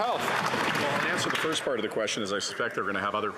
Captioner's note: some Applause